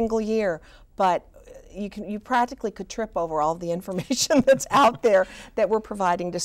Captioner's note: laughs